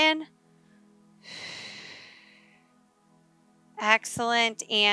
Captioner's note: sharp exhaling